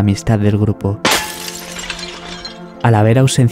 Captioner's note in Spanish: cristales rotos